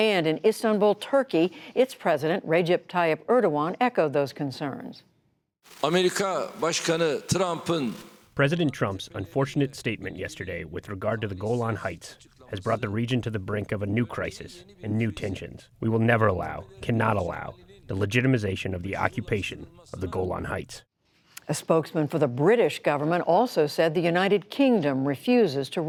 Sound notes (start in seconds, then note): 7.1 through translator